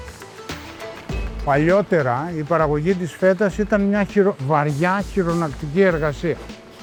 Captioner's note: speaking in foreign language